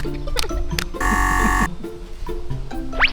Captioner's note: buzzer